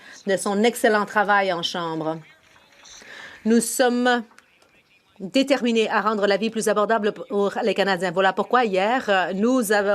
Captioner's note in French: voix de l'interprète